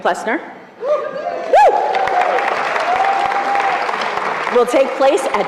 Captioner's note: cheering